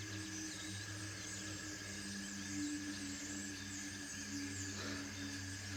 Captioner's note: crickets Chirping Continues